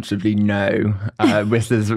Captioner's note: laughs